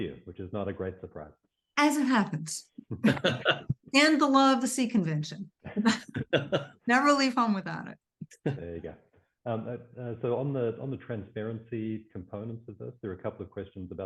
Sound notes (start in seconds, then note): 2.9 laughing